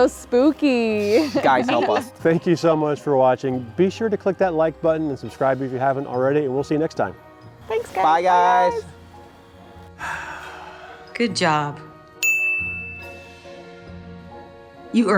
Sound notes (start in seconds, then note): 9.9 sighs; 12.2 bell dings